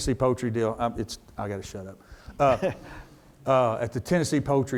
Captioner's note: chuckles